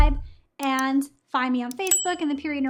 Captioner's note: bell dinging